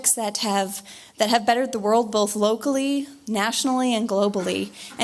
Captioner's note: none